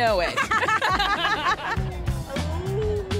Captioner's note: both laugh